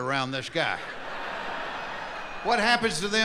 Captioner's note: laughing